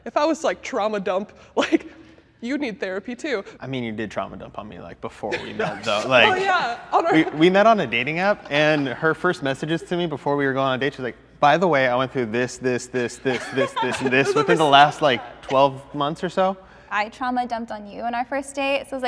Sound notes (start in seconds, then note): 5.2 group laughing